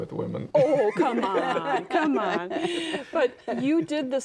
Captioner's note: all laugh